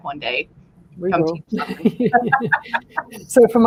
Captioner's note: laughter